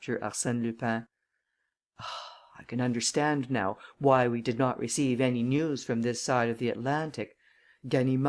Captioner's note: sighs